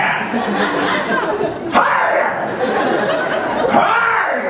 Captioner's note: laughter